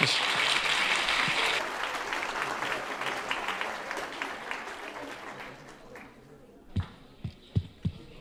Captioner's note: applause